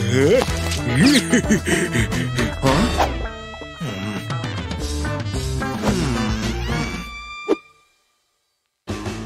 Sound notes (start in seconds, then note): 3.7 groans; 5.8 puffs